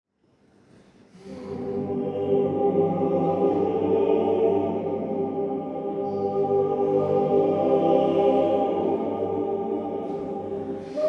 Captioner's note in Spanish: boca cerrada uuuuu